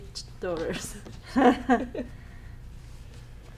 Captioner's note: laughing